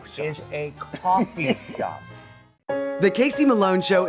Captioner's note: laughing